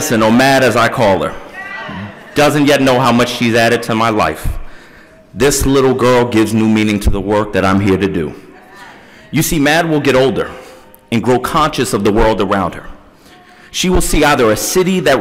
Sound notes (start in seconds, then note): none